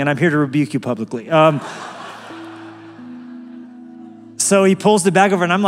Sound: laugh

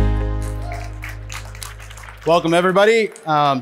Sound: audience applauding

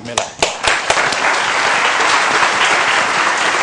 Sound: applause

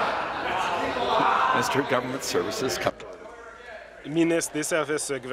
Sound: laughter

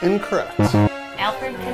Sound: beep

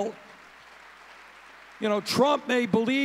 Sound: audience cheering

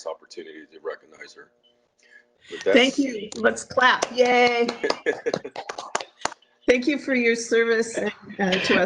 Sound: clapping, laughing

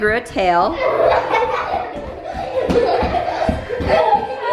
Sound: kids laughing

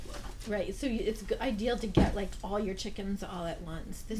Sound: voiceover

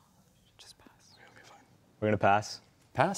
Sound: whispering

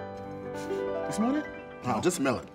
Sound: sniffs

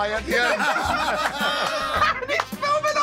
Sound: laughter

